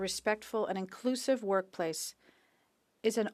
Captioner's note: speaking French